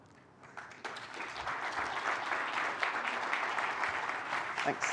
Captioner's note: applause